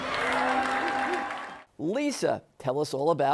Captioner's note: audience cheering